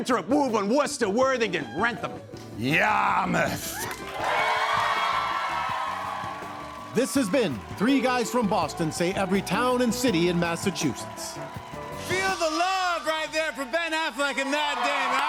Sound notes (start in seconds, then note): 4.1 cheers and applause